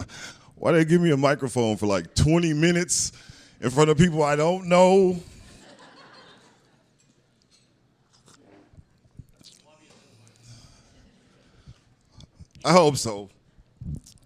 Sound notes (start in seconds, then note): 5.3 laughter